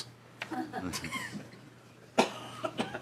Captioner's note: laughing